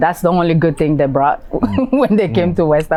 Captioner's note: chuckles